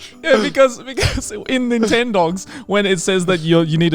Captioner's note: chuckles